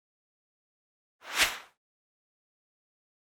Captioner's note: whooshing sound effect